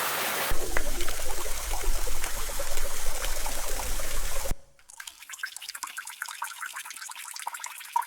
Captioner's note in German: Flussgeräusch; Bachrauschen